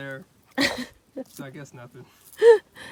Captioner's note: laughs